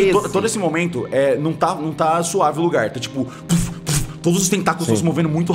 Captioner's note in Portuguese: <i>puf puf</i>